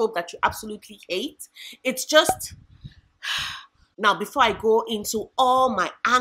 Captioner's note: sigh